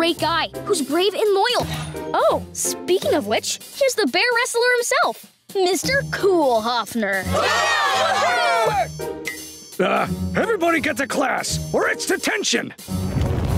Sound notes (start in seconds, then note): 7.3 cheering